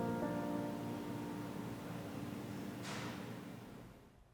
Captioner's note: gentle instrumental music; door clanks shut